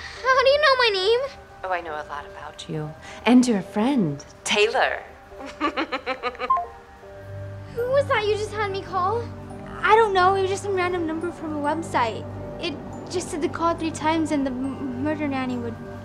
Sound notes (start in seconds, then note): 5.4 wicked laughter; 6.5 call ends